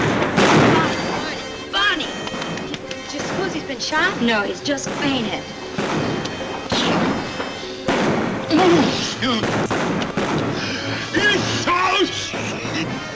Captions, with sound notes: - Barney, Barney. Do you suppose he's been shot? - No, he's just fainted. - Here. (Barney groans)